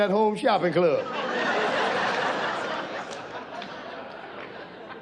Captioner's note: audience laughs